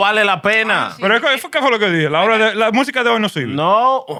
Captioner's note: non-english Speech